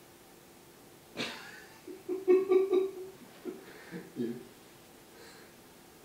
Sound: laughter

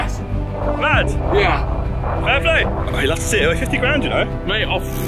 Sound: all clattering

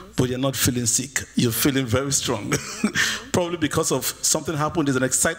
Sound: laughs

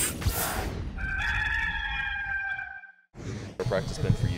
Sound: rooster crowing

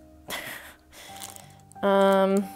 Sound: giggles

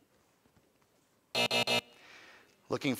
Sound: time buzzer

